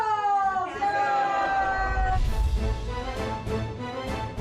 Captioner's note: cheering